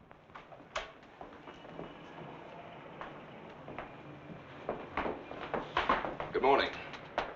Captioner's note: door rattling; footsteps thumping